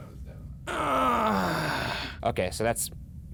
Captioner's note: groaning